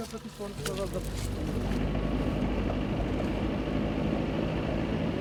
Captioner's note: car engine humming